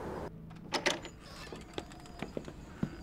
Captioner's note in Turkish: Kapı açılma sesleri; Kapı gıcırdama sesleri